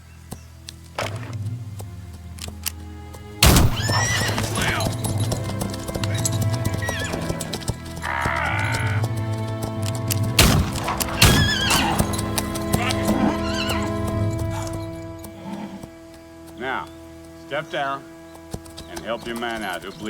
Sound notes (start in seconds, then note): 3.4 gunshot blasts; 3.4 horse whinnies; 8.5 victim groaning; 10.3 gunshots blasting